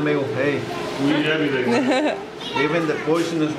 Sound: laughing

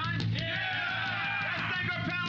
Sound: cheers and applause

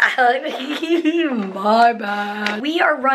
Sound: laughs

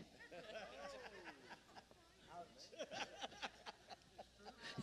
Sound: congregation laughing

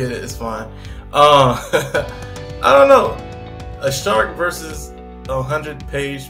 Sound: laughs

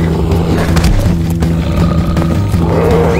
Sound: growling

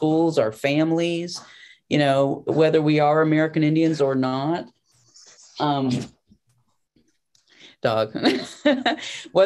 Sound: laughter

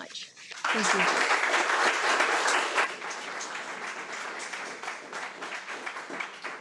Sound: attendees applaud

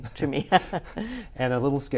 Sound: laughs

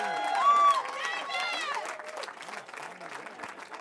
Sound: cheering

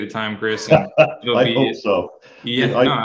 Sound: chuckling

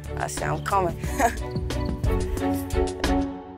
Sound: laughing; upbeat music

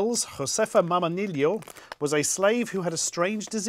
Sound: speaking foreign language

